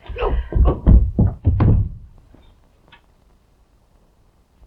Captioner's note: body thudding